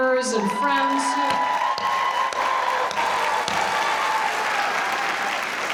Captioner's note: audience cheering; audience applauding